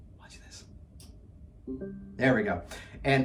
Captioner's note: ring tone